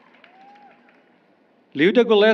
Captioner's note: applause